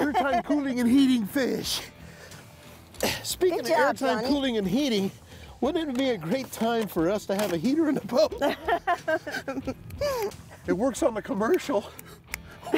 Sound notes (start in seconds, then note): 9.8 snapping fingers